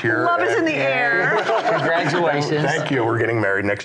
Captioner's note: laughs